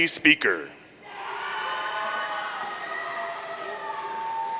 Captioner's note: audience cheering